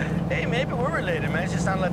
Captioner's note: chuckles